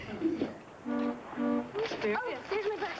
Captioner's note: horn honks